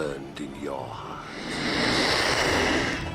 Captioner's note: hissing